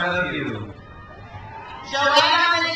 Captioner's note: crowd cheers